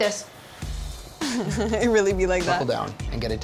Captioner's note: laughs